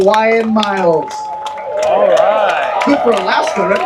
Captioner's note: applause